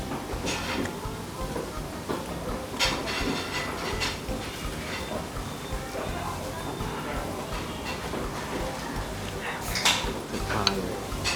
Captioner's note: slurping again